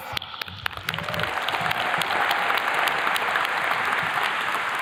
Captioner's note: attendees clapping